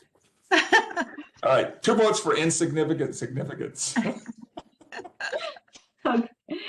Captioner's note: laughing